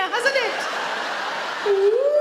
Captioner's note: audience laugh